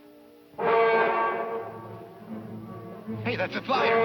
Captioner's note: horn blowing